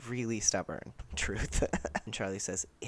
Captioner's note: laughter